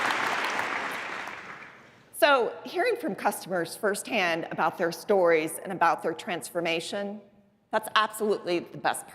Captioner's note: applause